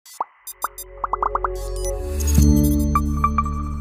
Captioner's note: logo pops and chimes